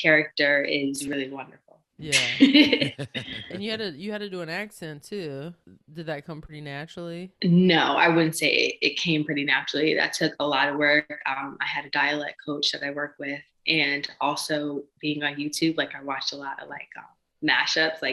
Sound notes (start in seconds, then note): 3.6 laughing